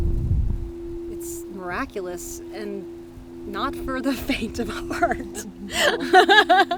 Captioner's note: laughs